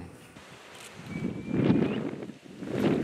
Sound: whistling sound

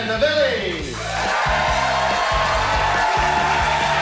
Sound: audience cheers

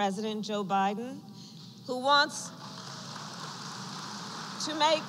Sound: applause

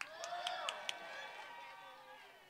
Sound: applause

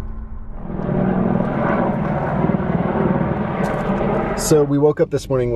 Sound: plane engine roaring

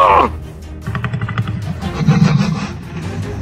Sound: Indominus growls

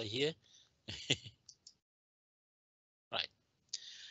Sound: chuckles

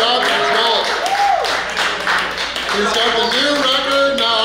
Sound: cheering & Clapping

